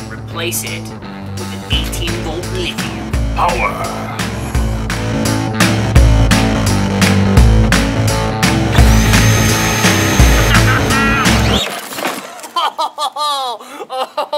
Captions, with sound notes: replace it with an 18 volt lithium. - Power! (upbeat music) (engine revs) (laughing) (engine revs) (laughing)